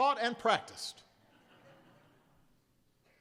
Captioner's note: laughter